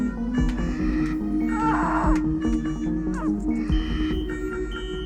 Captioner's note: Louisa screams nearby